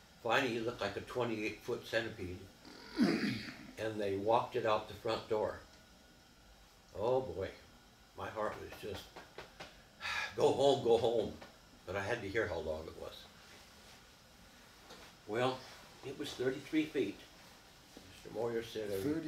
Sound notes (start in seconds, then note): 8.5 patting